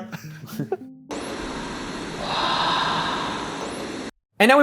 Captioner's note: static rumbling